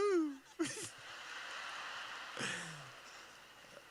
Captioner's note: laughing